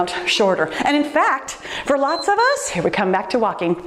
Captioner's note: timer beeps